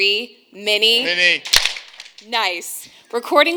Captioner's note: hands clapping